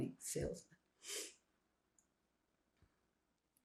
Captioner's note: sniffling